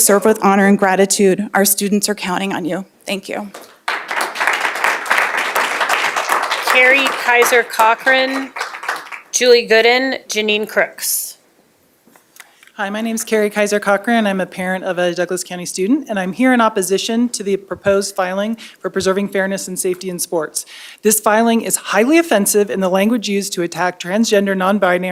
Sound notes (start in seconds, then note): 7.1 applause